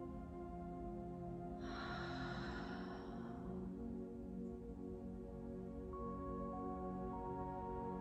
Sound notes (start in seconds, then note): 1.6 exhaling deeply